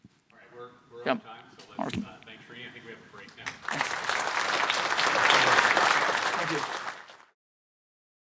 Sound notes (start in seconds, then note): 3.4 applause